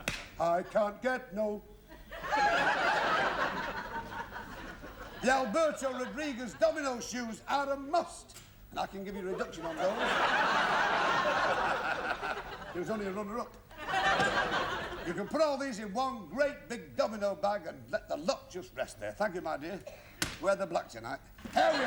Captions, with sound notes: 4 I can't get no...satisfaction The Alberto Rodriguez domino shoes are a must! I can give you a reduction on those. (LAUGHTER) He was only a runner-up. You can put all these in one great big domino bag and let the lot just rest there. Thank you, my dear. Wear the black tonight.